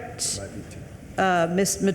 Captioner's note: attendee speaking softly